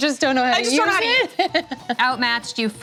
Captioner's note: laughing